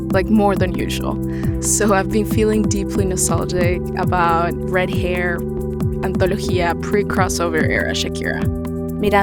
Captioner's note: non-English language spoken